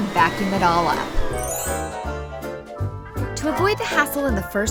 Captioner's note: tinkling